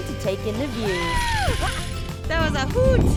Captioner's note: screaming